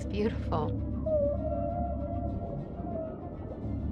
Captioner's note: whale lowing